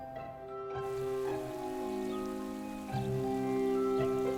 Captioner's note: gentle music; water splashing